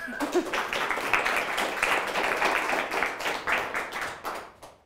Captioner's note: crowd applauding